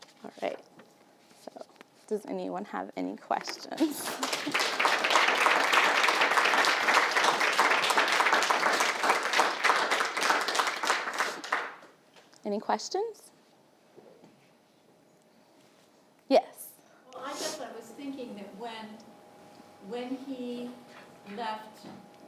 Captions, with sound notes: All right, does anyone have any questions? (applauding) Any questions? Yes. - Well I was thinking that when he left